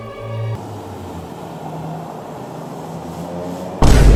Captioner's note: solemn opera music, with the sound of falling rain; outdoor sounds; slamming sound with logo Life In Lockdown